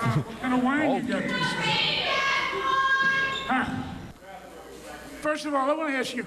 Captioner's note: lady in the crowd yells